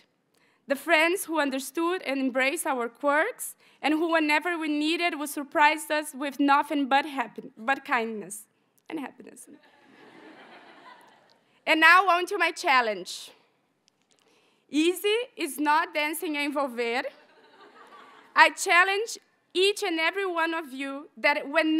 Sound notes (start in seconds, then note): 9.8 audience chuckles; 16.0 graduate speaking in a foreign language